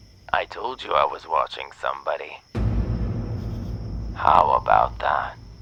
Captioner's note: none